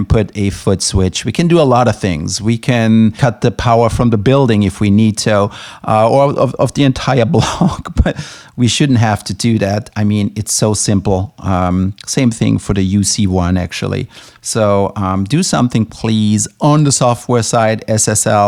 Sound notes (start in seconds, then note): 7.3 laughs